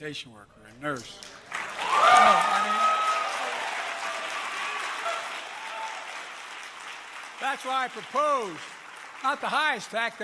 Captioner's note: applause